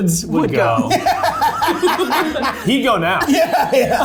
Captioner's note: laughing